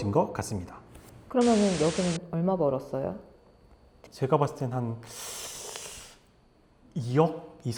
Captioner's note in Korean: 콧방귀